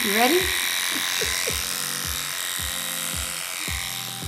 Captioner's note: laughs